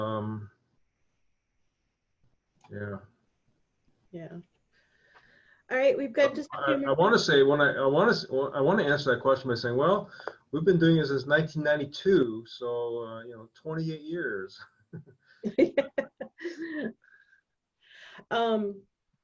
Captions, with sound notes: Yeah. - Yeah. Alright. We've got just a couple of-- - I wanna answer that question by saying, well, we've been doing it since 1992, so 28 years. (laughing)